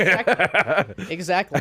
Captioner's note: laughing